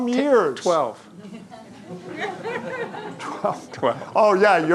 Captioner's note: audience laughing